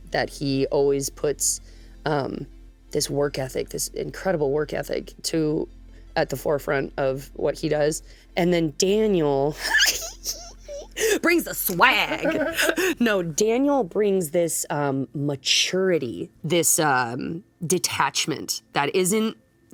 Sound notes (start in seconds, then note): 9.6 giggles; 11.7 laughs